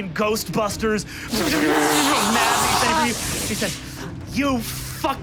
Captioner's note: imitates electrical explosion